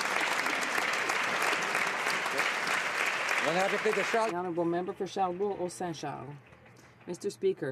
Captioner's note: some Applause